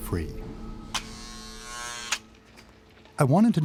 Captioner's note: door buzzes